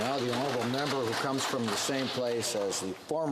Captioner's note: some Applause